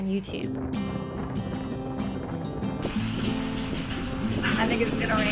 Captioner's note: rain drops and heavy wind